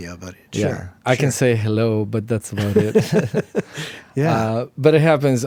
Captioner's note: laughs